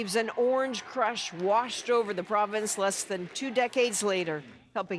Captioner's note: cheers and Applause